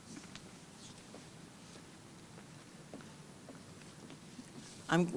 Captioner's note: shoes clattering